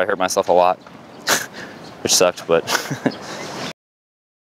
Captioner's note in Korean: 웃음